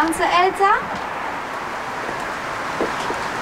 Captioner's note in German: Entfernter Verkehrslärm